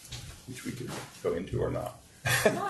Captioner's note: laughs